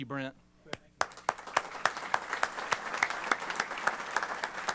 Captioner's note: applause